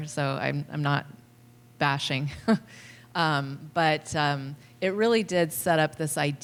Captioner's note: laughter